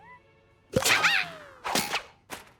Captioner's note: pop